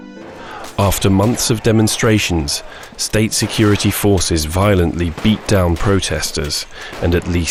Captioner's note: gunshots, shouting